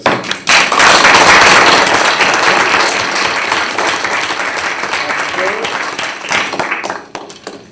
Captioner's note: applause